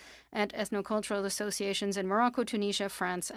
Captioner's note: speaking French